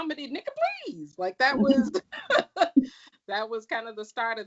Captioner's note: laughs